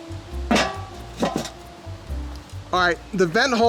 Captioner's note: lid thuds